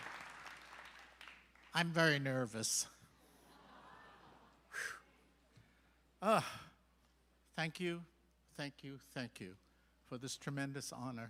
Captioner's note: applause